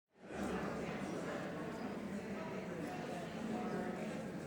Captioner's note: crowd chatting